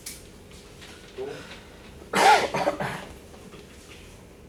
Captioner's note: coughing